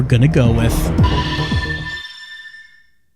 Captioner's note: ringing